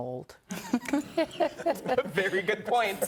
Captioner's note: laughing